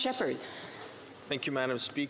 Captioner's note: speaking French